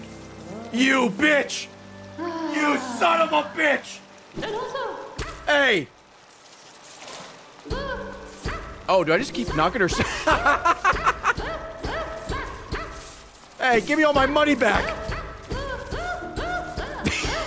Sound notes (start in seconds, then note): 9.9 laughs; 16.6 laughs